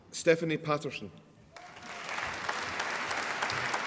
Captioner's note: applause